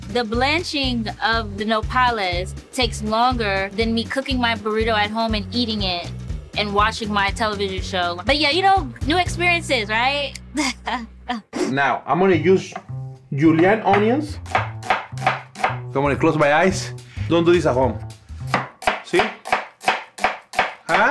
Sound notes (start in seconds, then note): 10.5 laughing; 14.4 chopping onion; 18.4 chopping onion